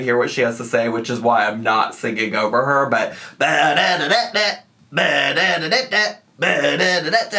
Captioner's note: vocalizes